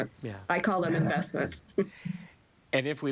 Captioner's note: chuckles